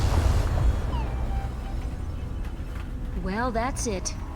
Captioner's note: machine beeping